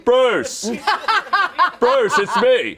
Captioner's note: all laughing